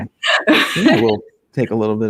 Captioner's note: laughing